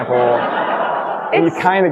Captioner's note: audience laughing